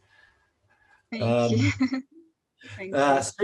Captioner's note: laughs